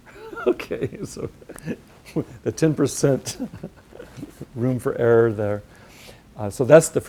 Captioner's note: chuckle